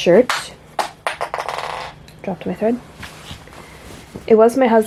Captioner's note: spool clatters on the floor